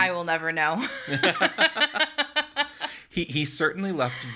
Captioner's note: laugh